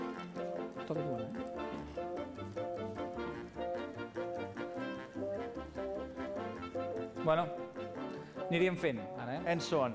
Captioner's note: non-english speech